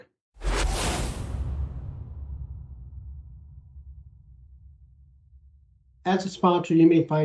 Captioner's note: whooshing sound